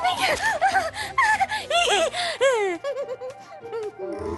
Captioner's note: hysterical giggling